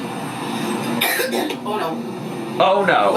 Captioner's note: coughs